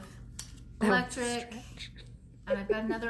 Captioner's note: laughs